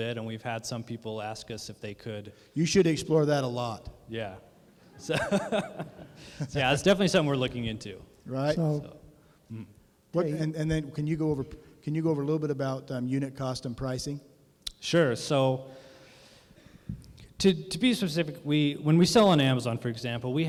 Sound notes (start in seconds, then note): 4.9 laughter